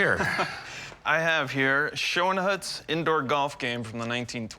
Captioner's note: chuckles